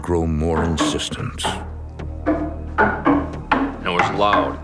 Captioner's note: clunking restarts even louder